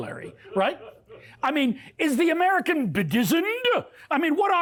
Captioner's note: laughter